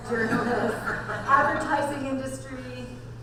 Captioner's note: audience laughs